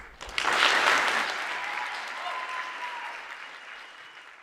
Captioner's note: audience applauding